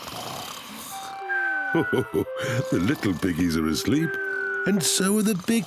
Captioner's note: chuckles